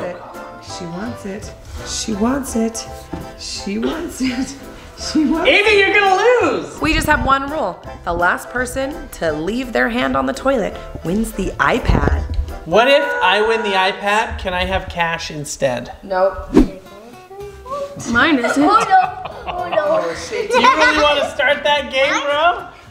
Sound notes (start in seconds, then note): 18.5 laughing